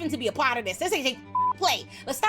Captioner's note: beep